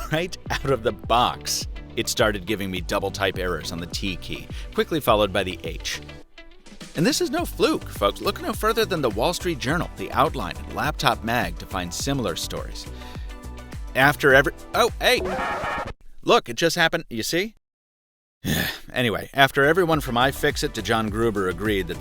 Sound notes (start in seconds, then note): 14.8 vinyl scratching; 18.4 groaning